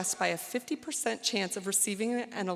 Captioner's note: none